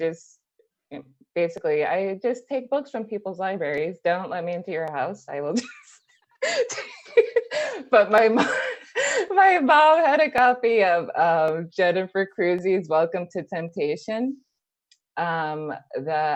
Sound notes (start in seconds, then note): 6.4 laughs; 6.9 laughs some more